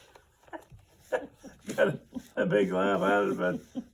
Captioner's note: laughs